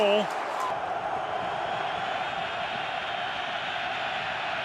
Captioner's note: cheering